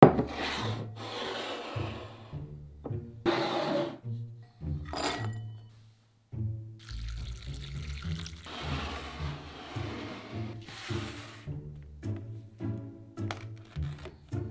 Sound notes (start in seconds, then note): 0.2 bowl sliding; 1.6 quirky music playing in background throughout video; 4.7 nuts dropping; 6.8 water pouring